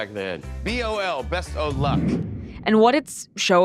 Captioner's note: screen whooshing